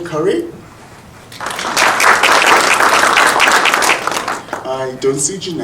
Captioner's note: audience applauding